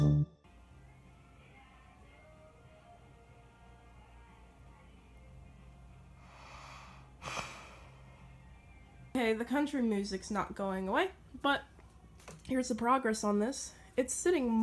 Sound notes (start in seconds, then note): 0.0 country music playing; 5.7 sigh